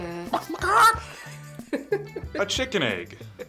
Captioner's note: laughs; clucks like a chicken